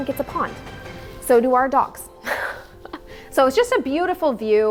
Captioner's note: laughs